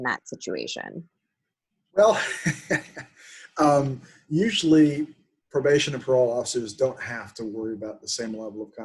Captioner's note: chuckling